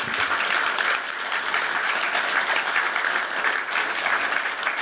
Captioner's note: applause